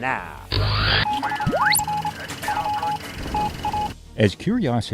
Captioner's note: sound Effects